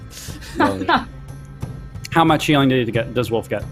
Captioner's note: laughs